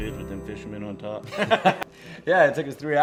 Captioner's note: laughing